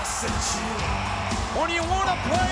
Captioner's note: audience cheering